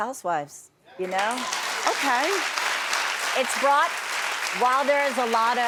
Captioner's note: audience applauds